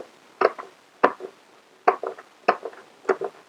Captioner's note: chops plants